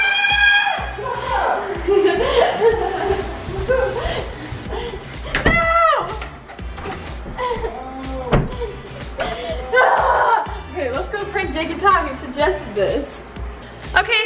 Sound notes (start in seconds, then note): 1.0 laughing